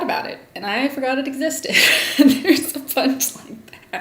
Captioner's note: laugh